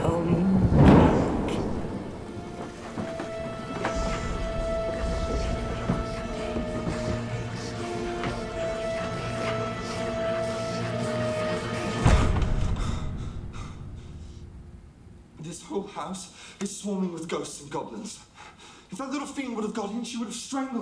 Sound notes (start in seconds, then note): 2.4 dramatic music; 12.7 hard breathing